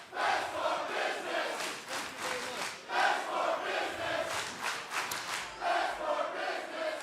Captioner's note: fans chanting